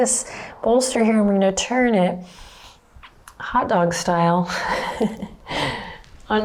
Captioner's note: chuckles